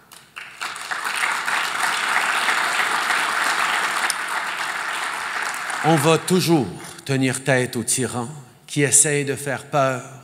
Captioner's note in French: Applaudissements